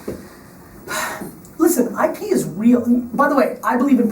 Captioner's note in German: Seufzt